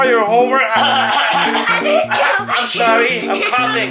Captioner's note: cough